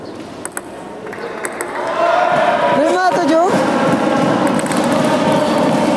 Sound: applause

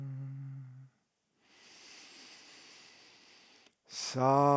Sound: inhales deeply

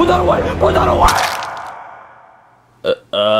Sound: blood squirts

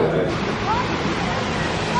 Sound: guests chattering indistinctly; water gushing

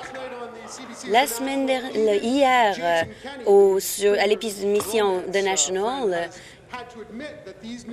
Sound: some applause

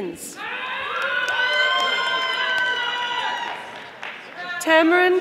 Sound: audience applauding

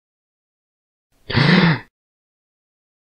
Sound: sigh

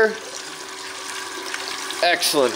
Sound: water runs

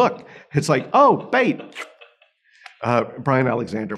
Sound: slurps

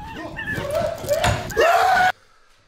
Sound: bird cawing; petrified screaming

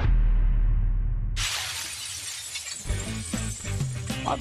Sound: shatters

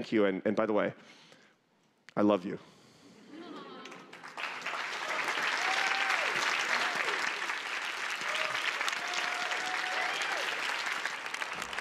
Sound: applause

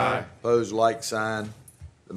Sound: chorus of ayes

